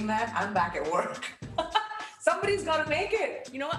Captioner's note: laughs